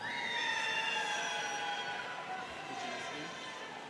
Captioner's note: students cheering